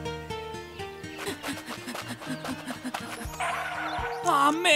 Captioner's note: outdoor ambiance; panting